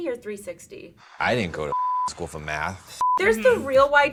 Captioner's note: beep